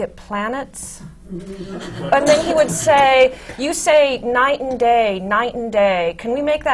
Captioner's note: laughter